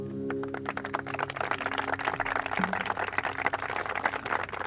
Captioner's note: audience applauds